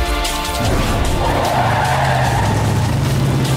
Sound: tires screeching

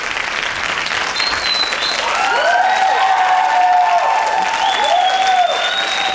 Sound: whistling and cheering

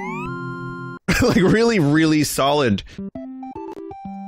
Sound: laughing

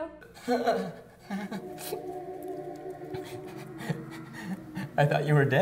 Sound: sobbing

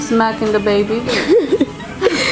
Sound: laughs

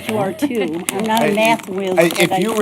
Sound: laughter

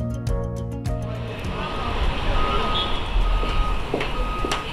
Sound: gentle piano and guitar music; city traffic and ambiance; heels clicking

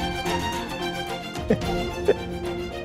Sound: laughs

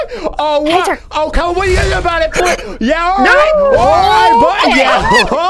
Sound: gasp

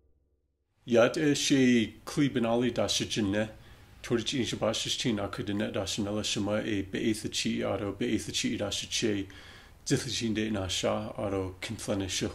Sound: Speaking Navajo

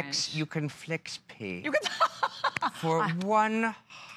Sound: laughter

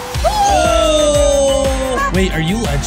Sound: shouts

